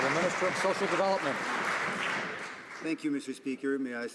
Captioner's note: some Applause